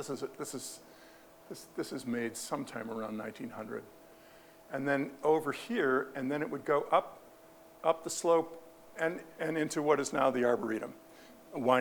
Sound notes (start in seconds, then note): none